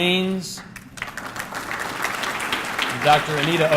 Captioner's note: audience clapping